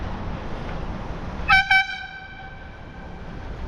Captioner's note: airhorn